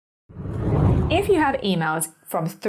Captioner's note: air whooshing